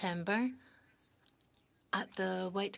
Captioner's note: speaking French